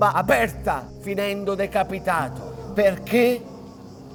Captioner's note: crowd murmurs shocked